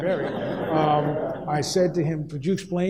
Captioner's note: audience laughs